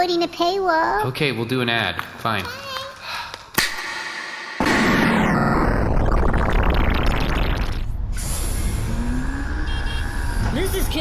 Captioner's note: beeping scooter